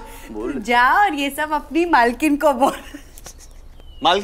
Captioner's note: Laughs